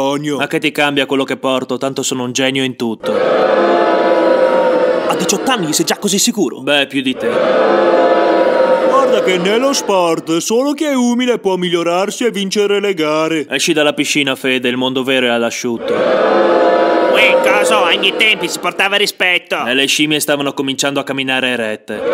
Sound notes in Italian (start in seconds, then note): 3.0 Folla che Urla; 15.8 Folla che urla; 22.0 Folla che Urla